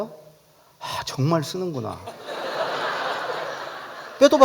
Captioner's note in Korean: 웃음